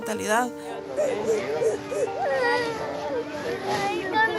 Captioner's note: crying